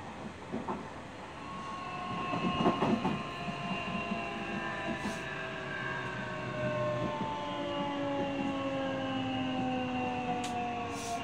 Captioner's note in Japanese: 減速音